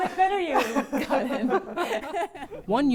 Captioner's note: laughter